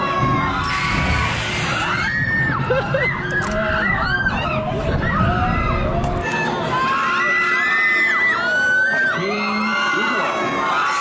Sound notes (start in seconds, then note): 2.6 only happy laughter